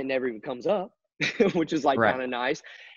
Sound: chuckles

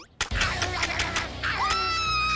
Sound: teeth chomp

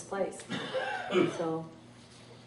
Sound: coughs

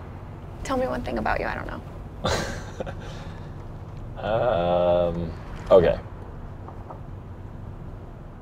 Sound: laughs

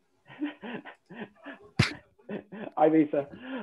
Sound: laughing

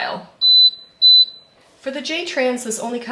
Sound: oven beeps

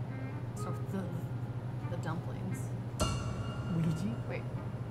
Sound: metal noise

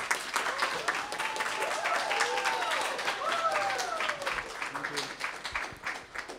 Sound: applause

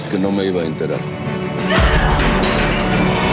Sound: grito

